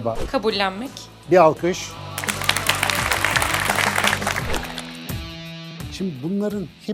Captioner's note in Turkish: alkış